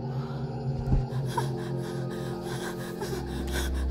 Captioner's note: whimpering